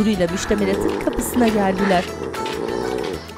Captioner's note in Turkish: Horlama sesi